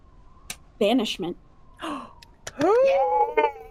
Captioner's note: gasping; clapping